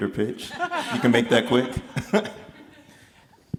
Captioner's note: laughs